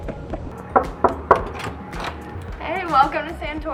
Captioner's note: knocking